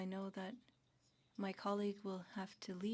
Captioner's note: speaking French